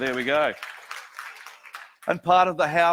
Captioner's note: audience applauds